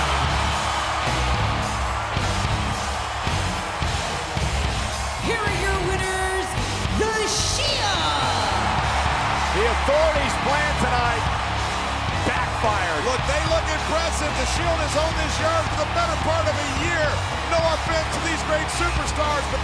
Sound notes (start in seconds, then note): 1.0 dramatic music; 8.7 audience cheers